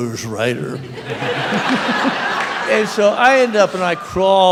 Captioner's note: raucous laughter